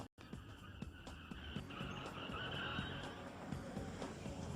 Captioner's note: tires squealing